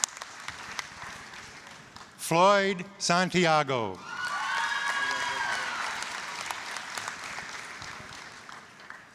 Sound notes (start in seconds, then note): 0.0 applause; 3.9 applause, cheering